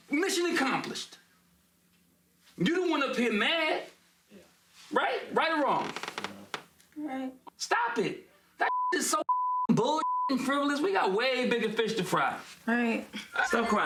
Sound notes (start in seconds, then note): 9.2 beep